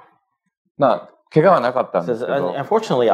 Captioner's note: speaking japanese